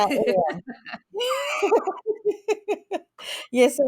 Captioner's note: laughs